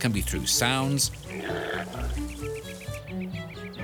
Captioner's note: impala grunts